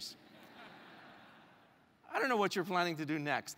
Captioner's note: laugh